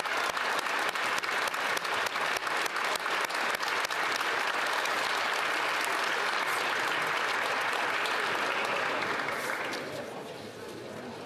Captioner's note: applause